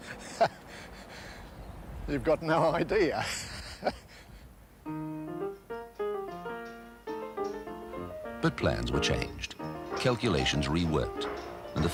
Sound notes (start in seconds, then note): 0.0 laughing; 3.1 laughing